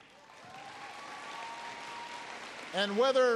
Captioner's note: applause